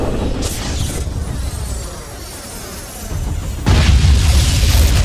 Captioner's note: cannons blasting; explosions booming; spacecraft whooshing; explosion booms